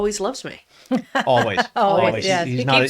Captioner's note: laughs